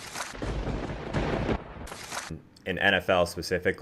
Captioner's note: lightning strikes